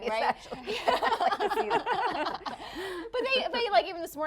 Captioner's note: laughing